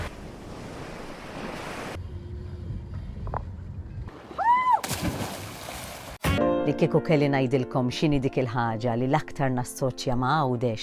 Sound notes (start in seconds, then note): 0.4 waves crashing; 4.8 water splashing